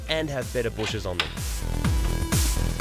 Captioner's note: clicks